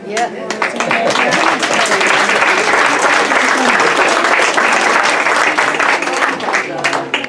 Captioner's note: clapping